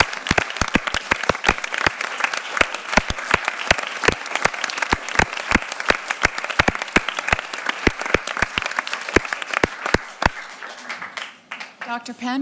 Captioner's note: applause